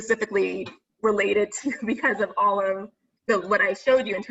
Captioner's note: laughs